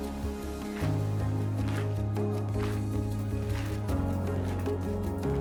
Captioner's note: rhythmic clapping